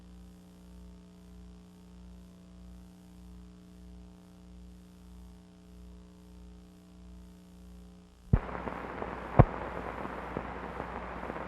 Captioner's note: silence